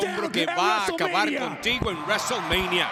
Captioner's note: applause